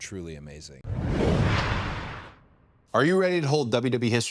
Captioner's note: logo whooshing